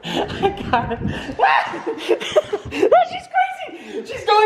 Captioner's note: shouting